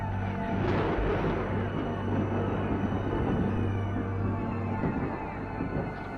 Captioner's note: mysterious music; thunder rumbles